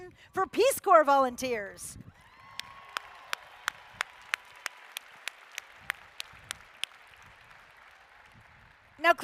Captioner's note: applause